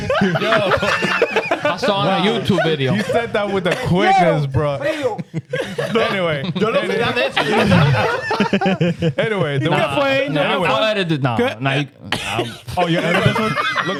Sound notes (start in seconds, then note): 0.1 laughing; 6.6 laughing; 11.3 laughing